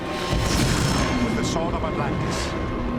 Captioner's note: metallic schwing